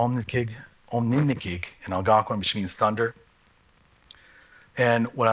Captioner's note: non-english speech